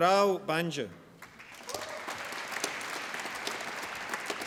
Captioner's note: applause